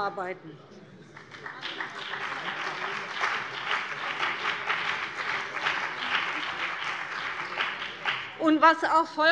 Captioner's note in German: Beifall BÜNDNIS 90/DIE GRÜNEN und vereinzelt CDU